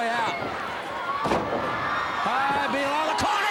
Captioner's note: crowd cheering